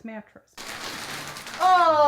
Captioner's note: plastic crinkles